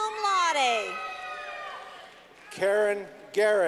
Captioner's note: clapping